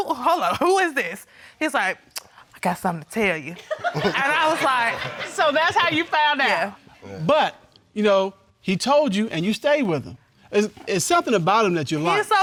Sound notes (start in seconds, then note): 3.8 audience laughing